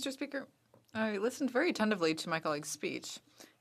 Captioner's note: speaking French